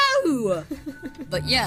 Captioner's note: laughs